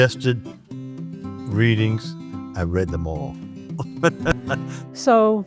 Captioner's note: laughs